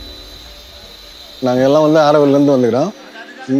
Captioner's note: in Tamil